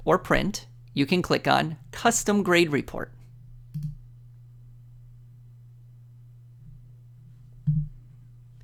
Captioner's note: click